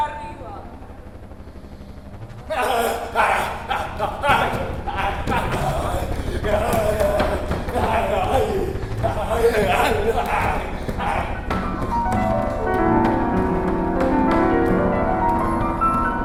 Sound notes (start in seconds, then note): 2.8 A dancer screams; 11.6 piano sounds